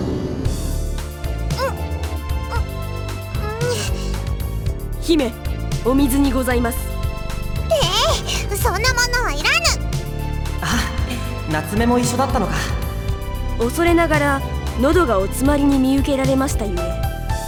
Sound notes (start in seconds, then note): 2.4 chomp; 4.0 chew